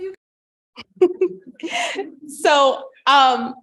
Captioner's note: laughter